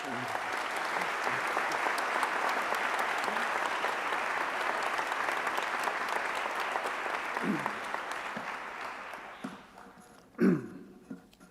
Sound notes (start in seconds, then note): 6.5 applause